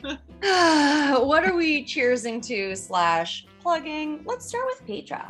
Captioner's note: existential sigh